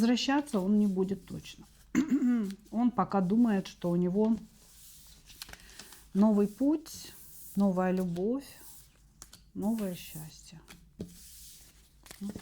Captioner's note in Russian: откашливается